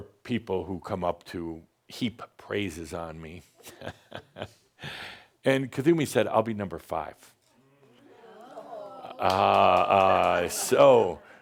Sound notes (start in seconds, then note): 3.6 chuckles; 7.9 audience says “Ohh!”